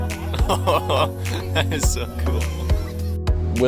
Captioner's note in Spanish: riendo